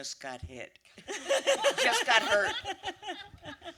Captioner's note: laughter